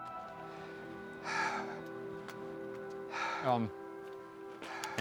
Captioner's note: heavy breathing continues